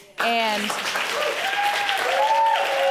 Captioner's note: audience cheering